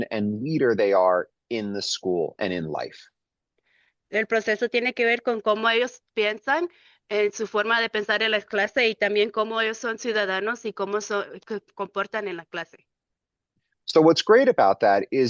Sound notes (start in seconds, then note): 4.1 speaking in Spanish